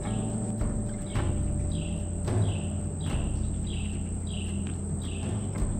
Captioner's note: birds chirping